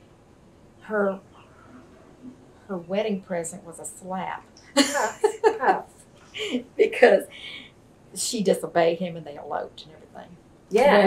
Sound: laughs

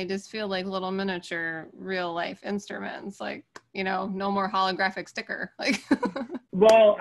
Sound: laughs

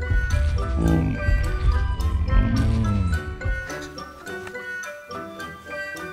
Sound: stegosaurus grunts; playful music

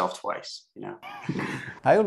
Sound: laughter

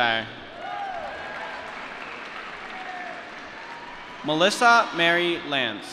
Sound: applause

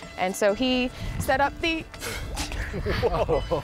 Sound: laughing

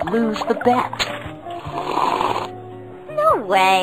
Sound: sipping

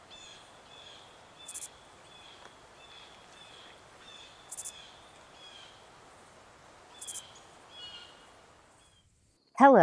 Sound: the sound of crickets and rustling leaves

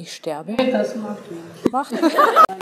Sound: laughing

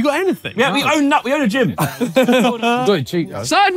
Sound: sailors laughing

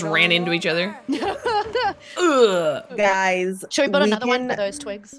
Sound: laugh

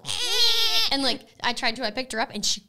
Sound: screeching together

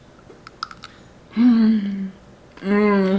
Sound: chocolate snapping

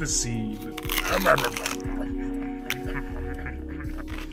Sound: crunch

